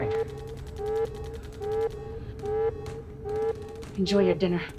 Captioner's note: gunfire pops in the distance